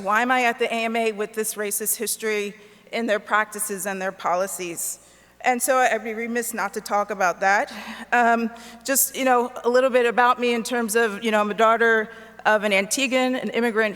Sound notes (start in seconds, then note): none